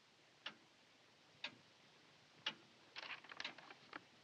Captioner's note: clock ticking; clock ticking